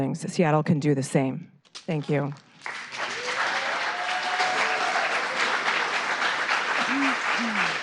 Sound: applause

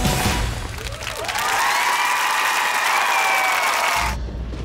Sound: cheering

